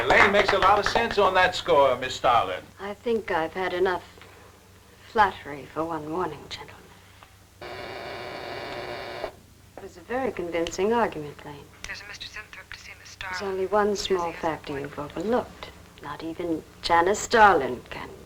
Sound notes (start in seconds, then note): 7.6 buzzing